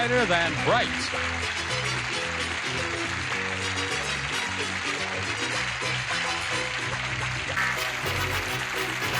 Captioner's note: applause, theme music